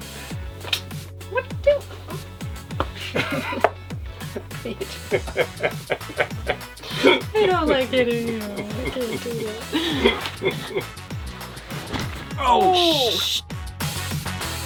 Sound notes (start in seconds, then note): 1.2 laughing